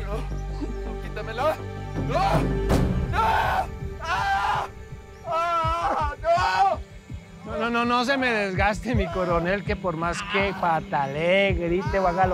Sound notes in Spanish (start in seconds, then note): 3.1 Gritos